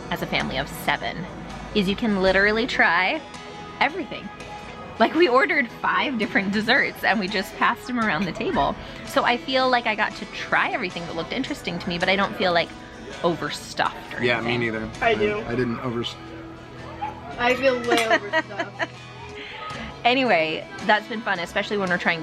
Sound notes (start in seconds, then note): 17.8 chuckles